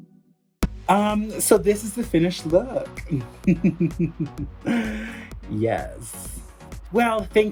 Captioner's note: giggles